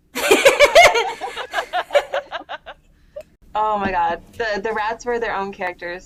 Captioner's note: laughter